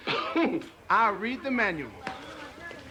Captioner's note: chuckles